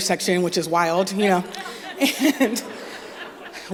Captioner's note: laughter